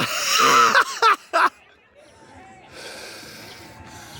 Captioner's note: laughing